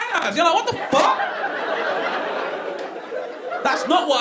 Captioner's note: audience laughing